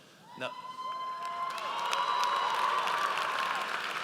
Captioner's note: audience cheers